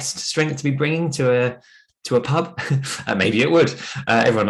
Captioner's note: chuckles